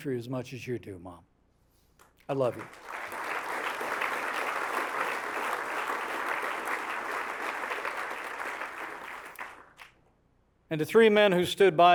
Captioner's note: applause